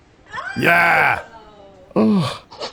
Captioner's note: audience member shouts; breathing rhythmically